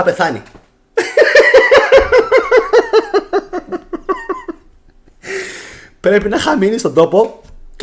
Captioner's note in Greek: γέλια